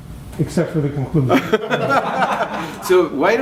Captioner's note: laughter